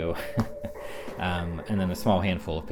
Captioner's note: laughs